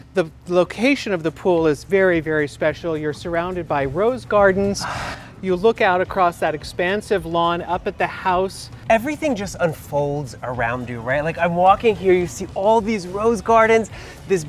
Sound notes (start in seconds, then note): 4.8 sighs